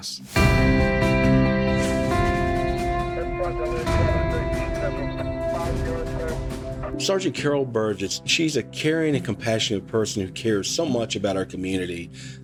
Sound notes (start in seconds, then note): 0.2 soft music; 3.5 police radio chatter